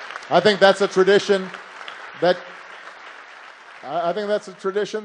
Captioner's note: applause